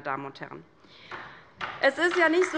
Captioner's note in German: Beifall bei der LINKEN